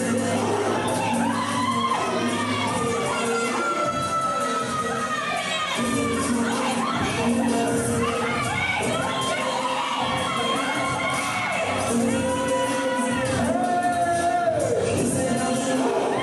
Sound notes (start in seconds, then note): 2.5 heavy beat music continues; 10.7 audience cheering continues